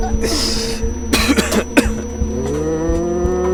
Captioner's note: high pitched ringing; coughing; tribesman chanting